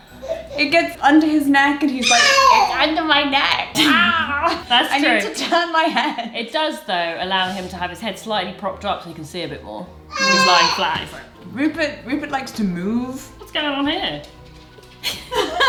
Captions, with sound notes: It gets under his neck and he's like, "It's under my neck." (exclaims) - That's true. - "I need to turn my head." - It does, though, allow him to have his head slightly propped up so he can see a bit more. If he's lying flat, he's like. - Rupert likes to move. - What's going on on here?